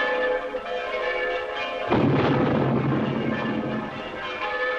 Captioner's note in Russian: колокольный звон